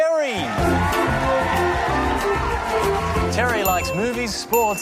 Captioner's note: cheering and applause